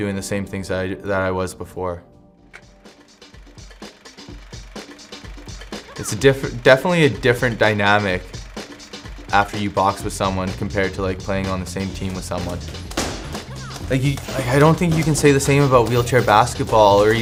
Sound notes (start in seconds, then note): 4.3 projector humming